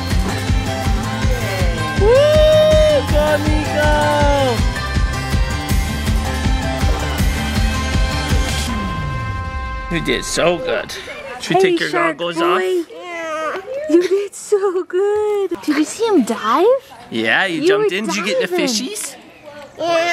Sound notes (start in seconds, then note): 2.0 cheers